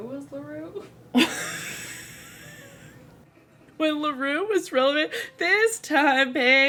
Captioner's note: laughs